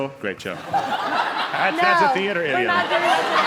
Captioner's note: onlookers laughing